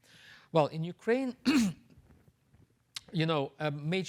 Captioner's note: clears throat